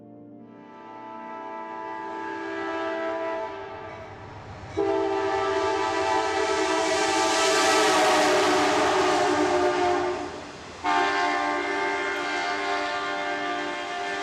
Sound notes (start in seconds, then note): 0.5 train horn